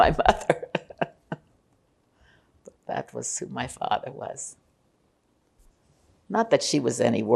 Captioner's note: laughing